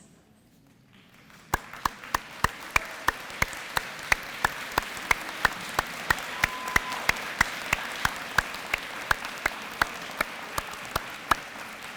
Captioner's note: applause and cheering